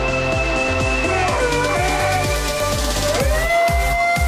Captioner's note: awooing intensifies